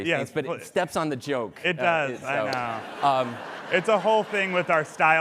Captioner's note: laughter